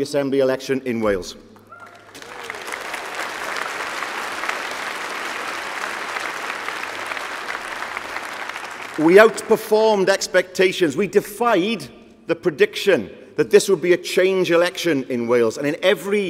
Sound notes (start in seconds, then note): 10.0 applause